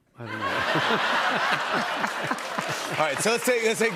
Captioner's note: laughter